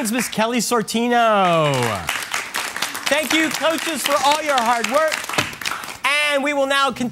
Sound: applause

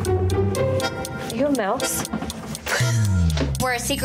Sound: giggling

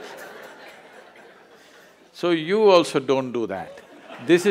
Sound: laughs; laughter

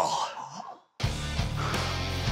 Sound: gasps; intense music

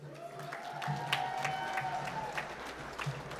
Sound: applause

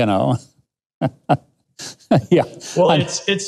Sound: laughs

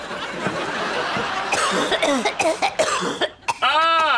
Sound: coughing

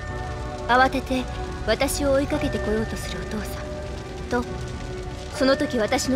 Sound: none

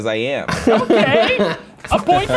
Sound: laughing

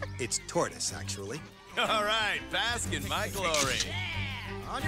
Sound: laughing

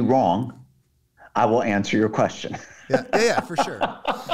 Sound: laughing

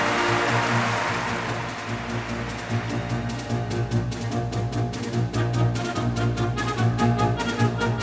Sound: applause

